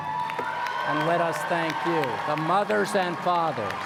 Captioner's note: applause